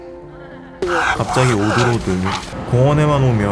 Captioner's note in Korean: 가빠진 호흡